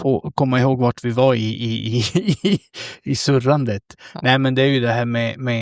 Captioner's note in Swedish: skratt